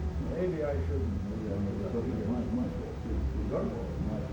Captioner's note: people speaking in foreign language